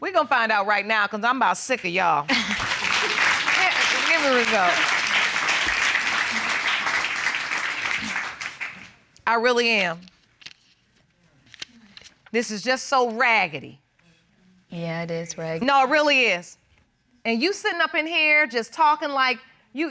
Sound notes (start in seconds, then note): 2.3 audience applauds